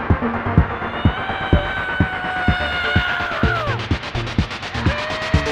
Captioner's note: adventurers whooping